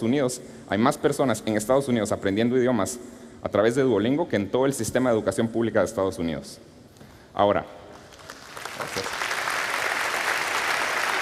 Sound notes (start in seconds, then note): 7.9 applause